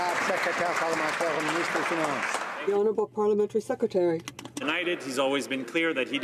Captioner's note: some Applause